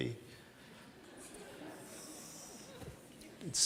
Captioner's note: laughter from the audience